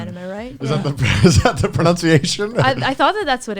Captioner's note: laughs